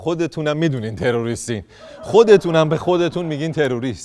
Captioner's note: laughter